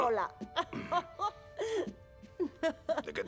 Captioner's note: giggling